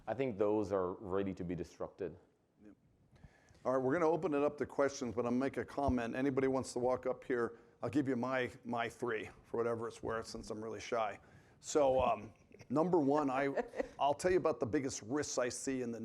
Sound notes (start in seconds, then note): 13.1 chuckles